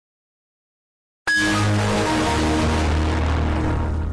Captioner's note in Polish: przesterowany dźwięk zamykania Windowsa XP